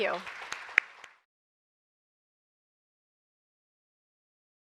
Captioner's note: audience applauds